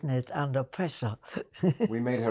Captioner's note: laughing